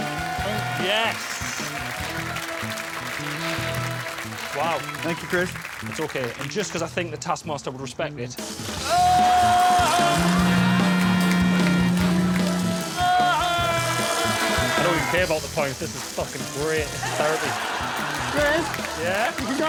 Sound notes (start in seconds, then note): 10.6 screams